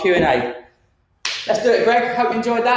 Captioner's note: hands clap